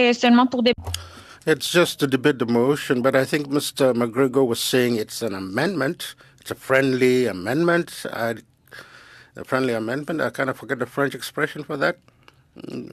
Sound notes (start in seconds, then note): 5.2 speaking French